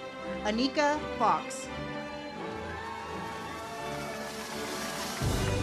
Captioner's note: audience applauds